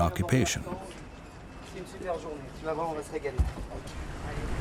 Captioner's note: speaking French